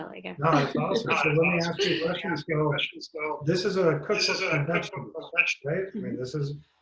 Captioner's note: audio echo